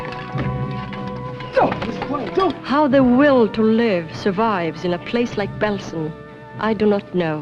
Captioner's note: shouts In German